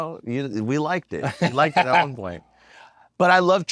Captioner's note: laugh